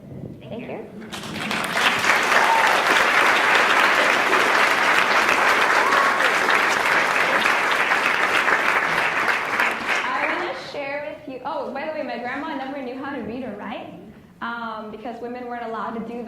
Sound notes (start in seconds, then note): 4.5 cheers; 7.0 applauds